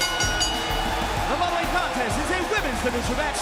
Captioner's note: crowd cheering; bell ringing